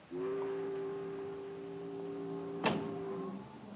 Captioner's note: boat horn